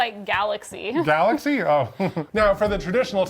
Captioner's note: chuckles